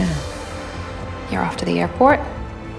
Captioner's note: voiceover